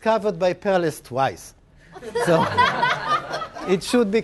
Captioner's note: laugh